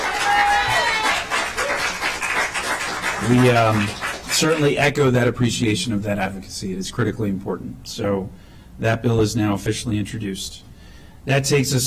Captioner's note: applause